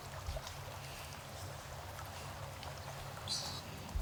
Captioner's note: water trickling